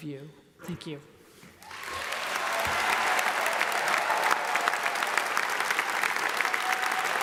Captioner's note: audience applauds; audience cheers